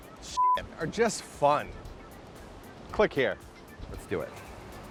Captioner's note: beep